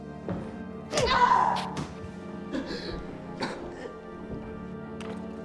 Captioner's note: Miss. Fang screaming